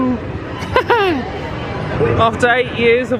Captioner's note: laughs